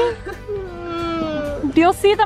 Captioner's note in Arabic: يئن بحزن